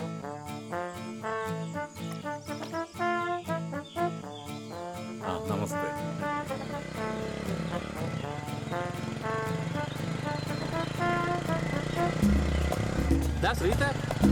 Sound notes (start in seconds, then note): 6.1 sound of the Bike passing